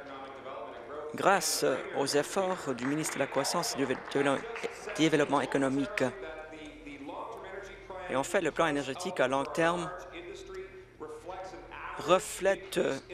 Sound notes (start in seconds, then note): 5.7 applause